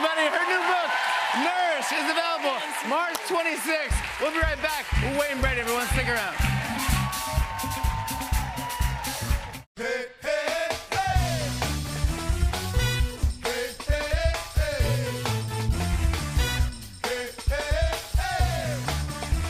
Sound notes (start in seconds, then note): 6.5 cheers and applause